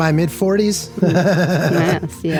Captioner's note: laughs